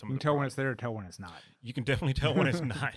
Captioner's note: laughs